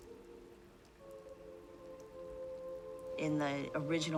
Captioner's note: rain pattering